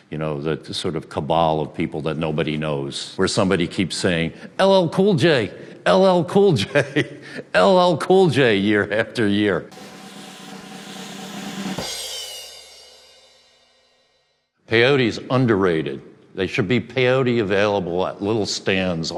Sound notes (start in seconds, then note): 6.6 laughs